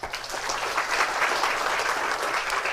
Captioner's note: applause